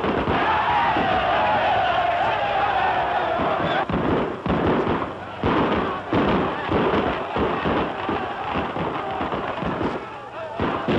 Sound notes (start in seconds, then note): 0.1 shouting; 3.6 gunshots